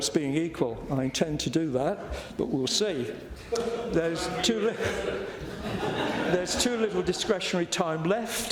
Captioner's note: laughter